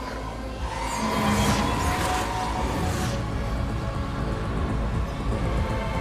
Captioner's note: wispy gusts